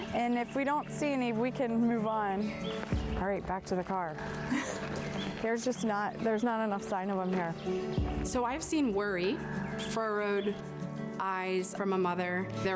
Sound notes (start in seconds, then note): 4.4 chuckles